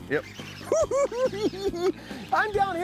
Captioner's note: cackling